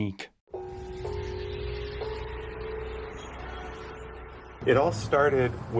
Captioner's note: bells clanging; horns honking